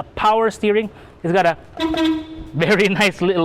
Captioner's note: beep beep